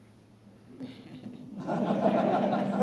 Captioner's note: laughter